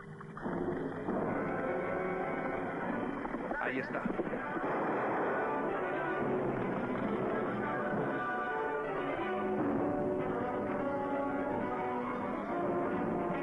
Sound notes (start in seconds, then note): 0.4 suspenseful music; 3.9 gun firing; 10.3 suspenseful music